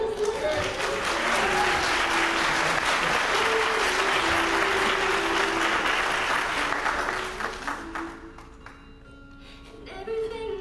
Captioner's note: applause